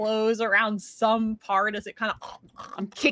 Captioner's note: Deborah chomps